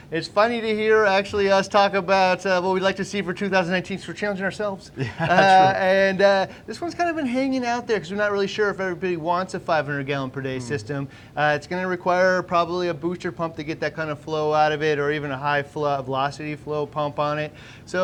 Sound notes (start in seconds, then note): 4.9 laughing